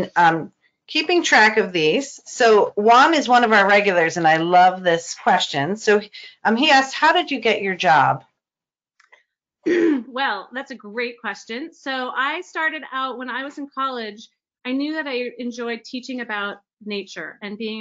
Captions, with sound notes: I've been keeping track of these. So Wam is one of our regulars and I love this question. So he asked how did you get your job? - (clears throat) Well, that's a great question. So I started out when I was in college. I knew that I enjoyed teaching about nature